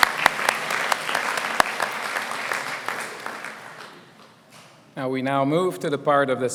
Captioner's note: applause